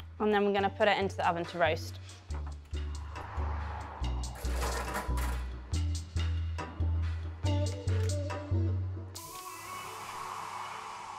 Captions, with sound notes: and then we're gonna put it into the oven to roast. (tray clanking) (soft upbeat music)